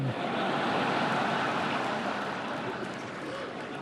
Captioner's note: laughter